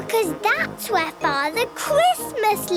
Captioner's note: none